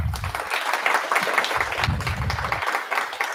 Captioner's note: applause